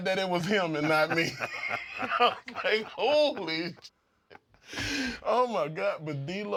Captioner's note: laugh